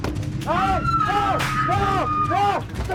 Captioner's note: woman screaming